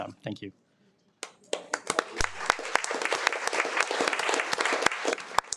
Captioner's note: audience applauding